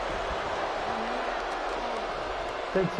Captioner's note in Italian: Applauso